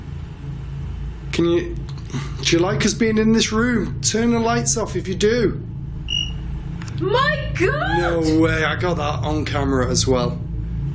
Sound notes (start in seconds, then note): 6.0 device chirps